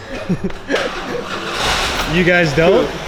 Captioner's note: laughter; engine starts